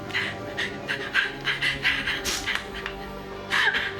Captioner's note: crying